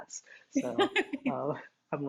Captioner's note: laughs